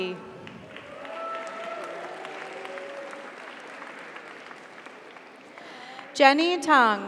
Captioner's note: audience applauds; audience cheers